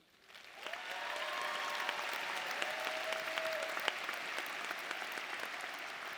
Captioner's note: audience cheering and applauding